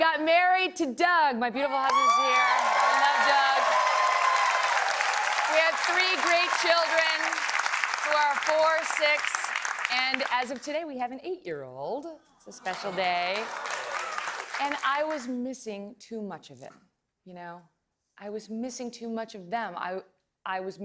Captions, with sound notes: WASN'T FULFILLING. AND I WENT ON TO BECOME A TV ANCHOR. AND THAT WAS GOOD, UNTIL IT WASN'T. I GOT MARRIED TO DOUG. MY BEAUTIFUL HUSBAND IS HERE. [ CHEERS AND APPLAUSE ] WE HAVE THREE, GREAT CHILDREN, WHO ARE 4, 6 AND AS OF TODAY, WE HAVE AN 8-YEAR-OLD. A SPECIAL DAY.